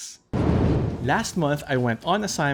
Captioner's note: air whooshing